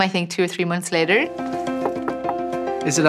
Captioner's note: knocking